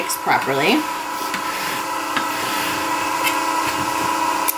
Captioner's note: machine buzzing